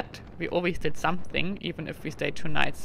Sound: none

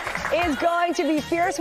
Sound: applause

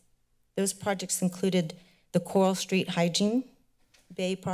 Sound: none

